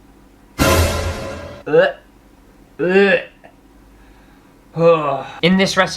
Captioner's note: gagging Sounds